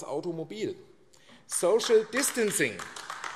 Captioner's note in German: Beifall AfD